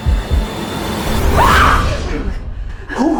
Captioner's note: screams